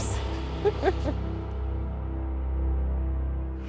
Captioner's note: laughing